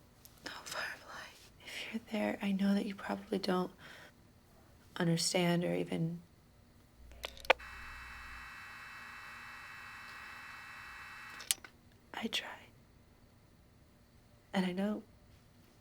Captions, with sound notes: Oh, Firefly, if you're there, I know that you probably don't... understand or even... -[radio crackles] -[electronic buzzing] -[mouthpiece clicks] -I tried. And I know...